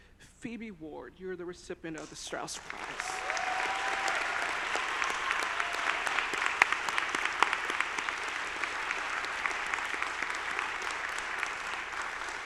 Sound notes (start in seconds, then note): 2.5 audience applauding; 2.6 audience cheering